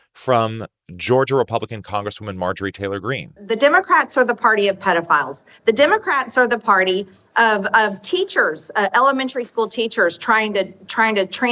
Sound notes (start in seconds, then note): 3.2 soundbite of archived recording